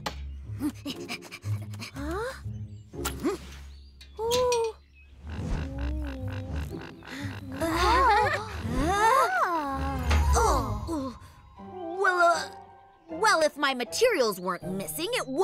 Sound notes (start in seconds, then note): 7.0 Pinkfong chuckles; 7.6 all exclaiming